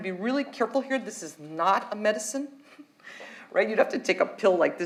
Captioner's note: chuckles